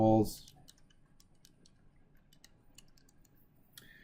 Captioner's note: calculator typing